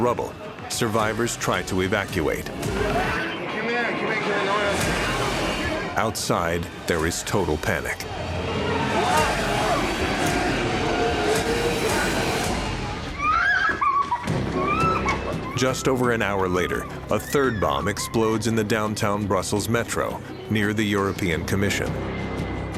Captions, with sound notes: In the midst of the rubble, survivors try to evacuate. Outside, there is total panic. [tense music] [woman screaming] Just over an hour later, a third bomb explodes in the Downtown Brussels Metro near the European Commission.